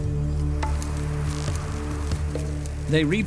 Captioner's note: locusts fluttering